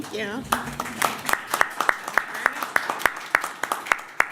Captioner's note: applause